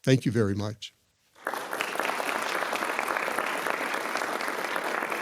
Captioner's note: attendees applauding